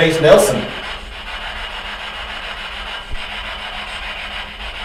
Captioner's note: static buzzing